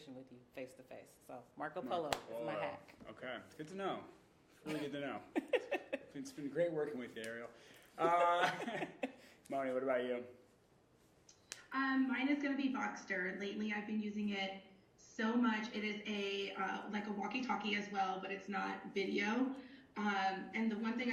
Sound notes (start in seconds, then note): 4.6 chuckling; 8.0 laughing